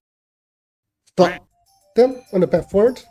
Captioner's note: happy duck sounds